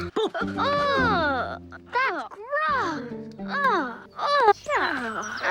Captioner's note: Ethel groaning